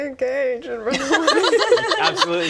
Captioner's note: betrayed laughter